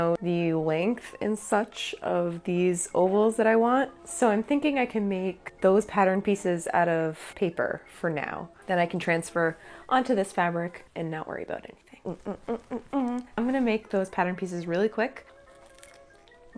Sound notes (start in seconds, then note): 11.9 humming